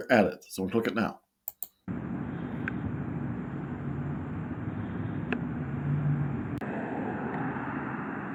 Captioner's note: traffic noise